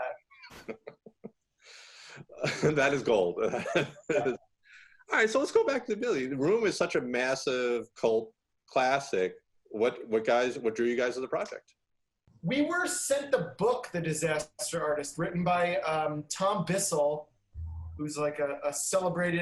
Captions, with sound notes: (laughing) - That is gold. (laughing) All right, so let's go back to business. Room is such a massive classic, what drew you guys to the project? - We were sent the book The Disaster Artist written by Tom Bissell who's like a celebrated